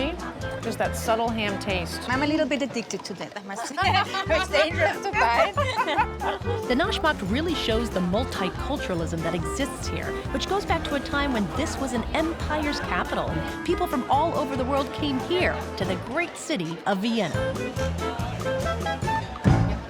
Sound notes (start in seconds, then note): 3.6 laughing